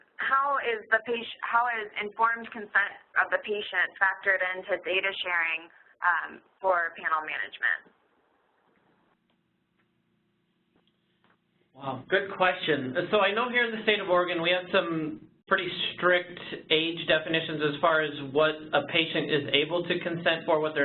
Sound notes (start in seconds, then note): 12.3 voiceover